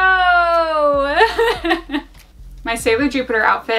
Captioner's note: laughs